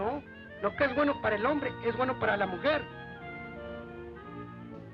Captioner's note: man speaks Spanish